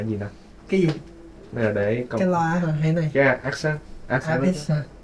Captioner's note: speaking foreign language